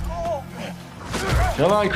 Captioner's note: blows landing; characters grunting and yelling